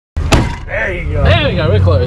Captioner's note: door slams